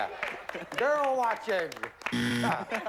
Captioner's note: buzzer